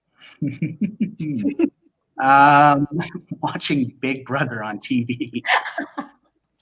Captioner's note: laughs